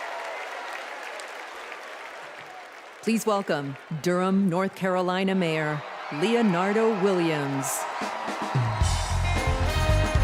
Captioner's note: cheers and applause